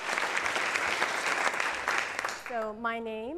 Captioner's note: audience applauds